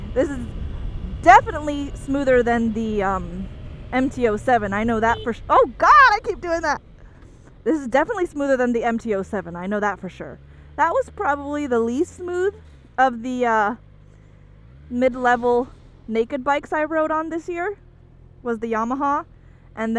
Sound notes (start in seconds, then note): 5.0 horn honking